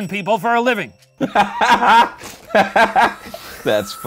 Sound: laughing

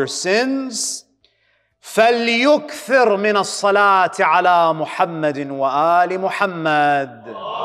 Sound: Arabic

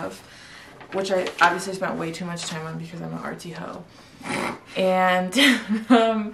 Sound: snorts

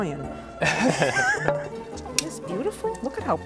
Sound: laughter

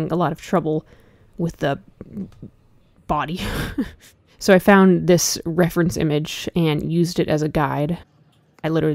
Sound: laughs

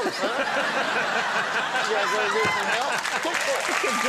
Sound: laughing

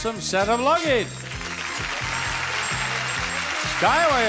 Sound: audience applauds

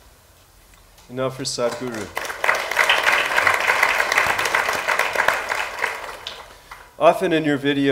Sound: applause

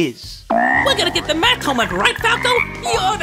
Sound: croak

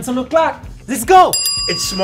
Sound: timer dinging

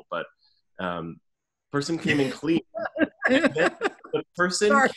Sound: laughs

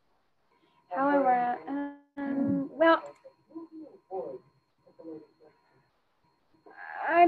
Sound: woman speaking faintly

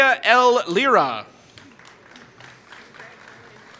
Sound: applause

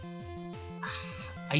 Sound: sighs

